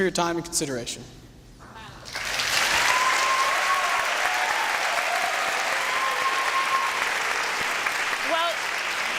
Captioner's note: applause and cheering